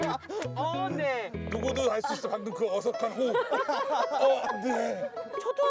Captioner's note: caught her awkwardly breathing